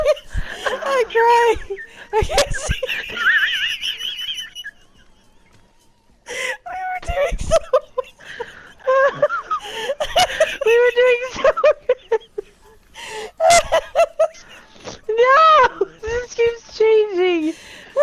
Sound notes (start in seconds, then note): 3.4 both laughing harder; 13.3 much laughter